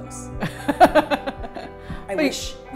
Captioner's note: laughs